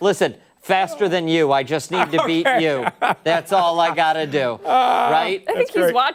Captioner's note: laughter